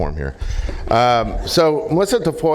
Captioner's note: laughter